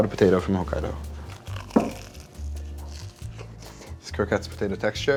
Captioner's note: croquette crunching